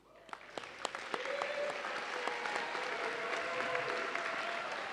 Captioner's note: audience applauding